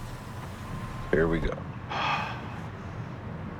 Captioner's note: sighs